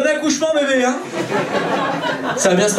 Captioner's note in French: rires public